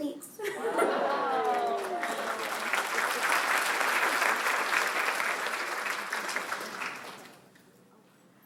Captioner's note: applause